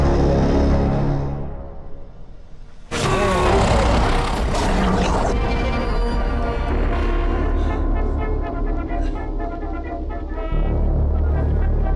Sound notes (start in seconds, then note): 2.9 monster growling; 4.1 blow thudding; 6.7 soft ominous music; 7.7 cheerful 1920's music